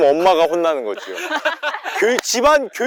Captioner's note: laughter